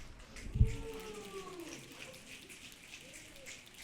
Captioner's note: audience clicking